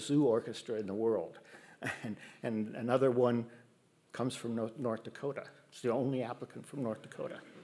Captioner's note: laughs